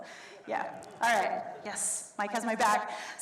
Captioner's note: audience laughs